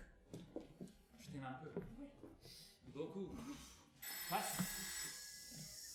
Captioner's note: the phone rings